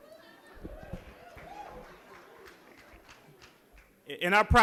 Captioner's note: applause